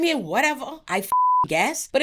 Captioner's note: beep